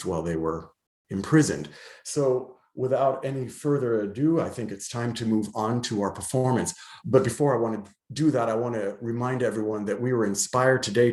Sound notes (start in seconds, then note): none